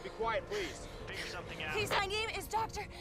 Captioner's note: radio